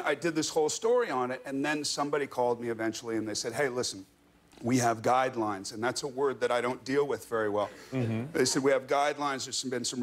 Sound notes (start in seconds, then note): none